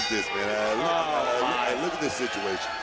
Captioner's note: bell rings